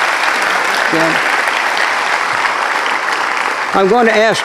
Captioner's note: applause